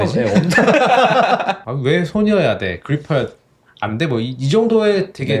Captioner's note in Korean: 웃음